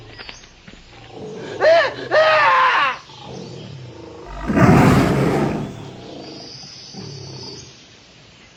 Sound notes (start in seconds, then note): 0.6 Ham yelling; 3.9 tiger roar